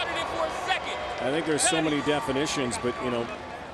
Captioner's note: cheering